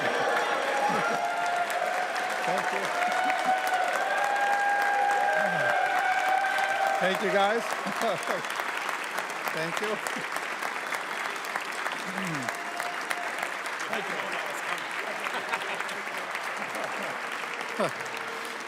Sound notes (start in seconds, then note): 5.7 applause